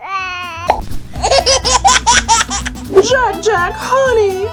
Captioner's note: coos; laughs